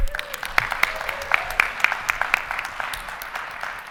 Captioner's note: audience applauding